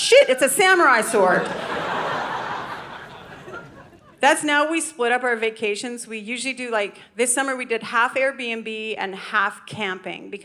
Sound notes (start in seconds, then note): 0.9 audience laughing